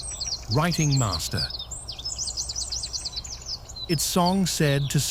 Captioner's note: birds chirping